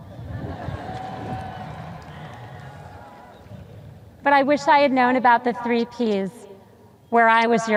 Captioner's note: sparse cheers